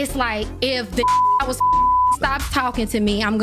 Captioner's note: beep